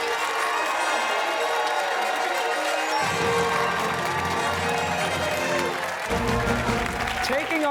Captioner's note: fanfare; cheers and applause